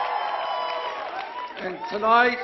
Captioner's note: applause